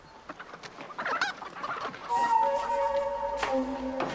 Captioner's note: chickens clucking